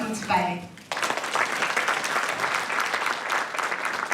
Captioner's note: applause